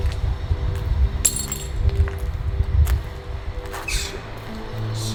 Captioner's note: glass shatters